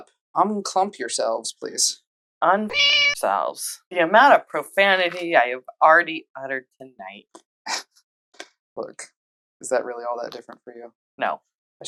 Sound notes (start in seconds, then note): 2.7 meow